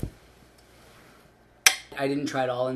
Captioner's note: clinking